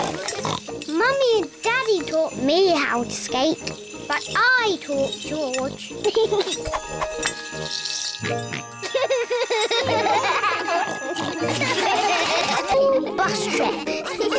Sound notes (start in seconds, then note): 0.0 snorts; 6.2 giggles; 8.4 snorts and giggles; 10.4 all laugh; 11.3 giggling